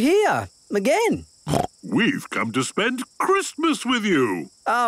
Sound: snorting

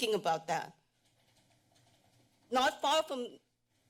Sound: pause

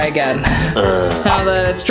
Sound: french Accented Voice

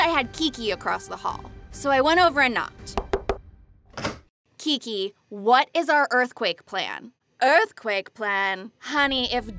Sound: knocks

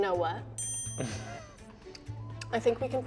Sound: bell chimes

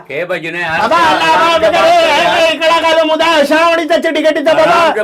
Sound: chanting in Urdu

